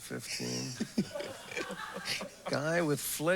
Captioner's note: laughter